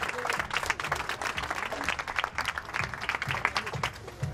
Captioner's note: applause